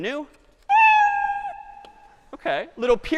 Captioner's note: cat meowing